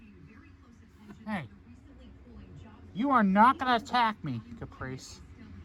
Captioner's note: slurred